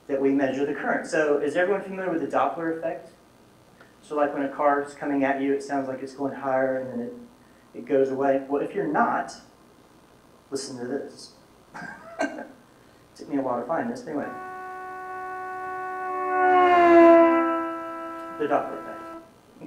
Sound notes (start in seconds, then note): 14.2 car horn blaring